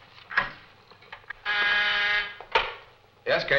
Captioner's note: phone buzzing